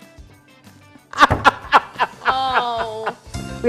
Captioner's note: laughing